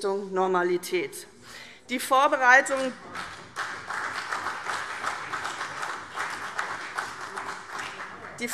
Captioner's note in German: Beifall CDU und BÜNDNIS 90/DIE GRÜNEN